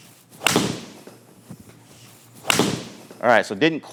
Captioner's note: golf club strikes ball; golf club strikes ball